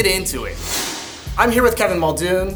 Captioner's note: graphic whooshes